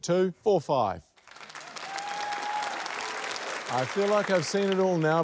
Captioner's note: cheering